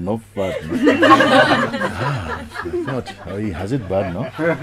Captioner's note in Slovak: Smiech